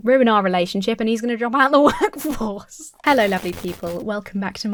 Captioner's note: laughs; glitchy static